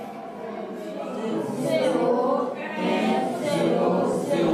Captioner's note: children speaking French